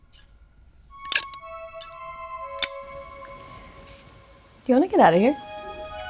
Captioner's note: scissors clicking